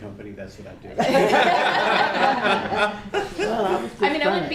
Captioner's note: laughter